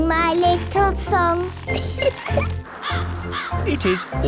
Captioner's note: giggling; birds cawing